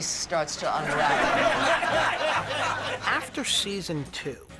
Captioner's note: cast laughs